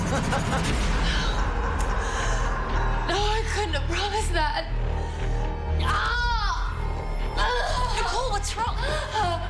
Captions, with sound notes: (Mam's laughter echoing) No.... No, I couldn't have promised that. (pained groaning, shouting) - Nicole, what's wrong?